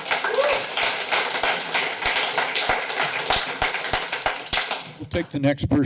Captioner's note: applause